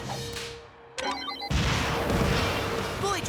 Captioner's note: missiles whoosh